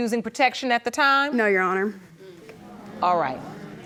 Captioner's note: audience murmurs